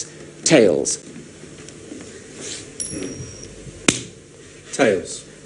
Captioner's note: coin spinning